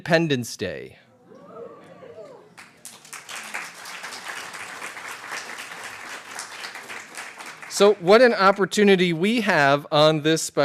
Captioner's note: applause